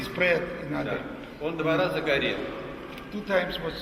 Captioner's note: speaks in the Russian language